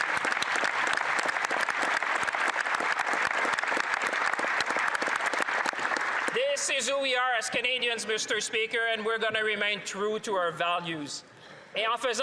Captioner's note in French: applaudissements